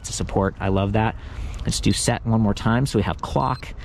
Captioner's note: bike beeps